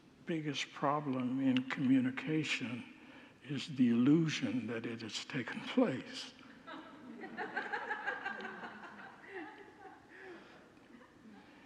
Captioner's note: congregants laugh